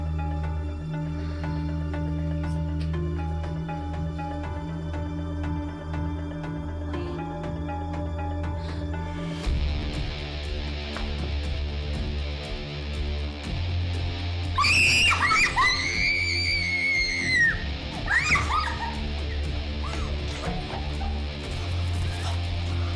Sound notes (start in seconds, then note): 0.1 suspenseful music; 8.5 gasps; 9.5 intense suspenseful music; 14.7 Gigi screaming; 20.0 Gigi sobbing